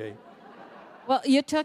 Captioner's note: laughter